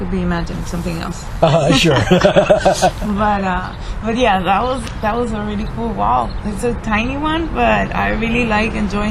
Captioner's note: laughs